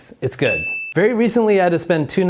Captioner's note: bell dinging